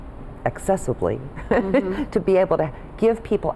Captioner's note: laughs